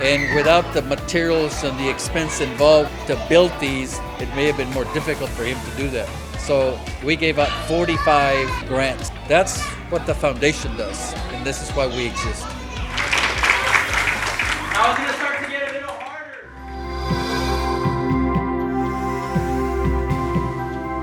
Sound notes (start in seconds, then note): 11.8 children applaud; 18.3 moving music